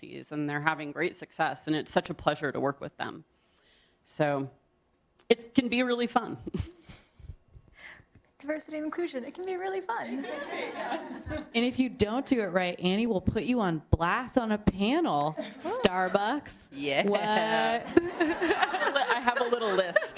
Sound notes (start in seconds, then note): 10.0 laughter